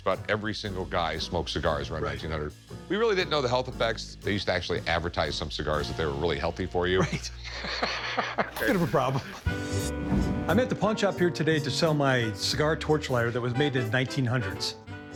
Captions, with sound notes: just about every single guy smoked cigars around 1900. We really didn't know the health effects. They used to actually advertise some cigars that they were really healthy for you. - Right. [both laugh] Bit of a problem. I'm at the pawn shop here today to sell my cigar torch lighter that was made in the 1900s.